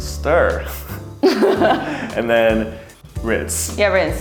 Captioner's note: laughs